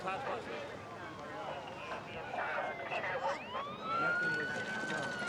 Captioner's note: sirens blaring